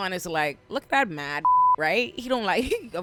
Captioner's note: beep